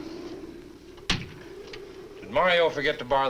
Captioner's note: door closes